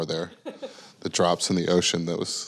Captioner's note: laughing